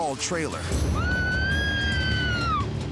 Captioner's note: woman screaming